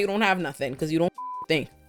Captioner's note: beep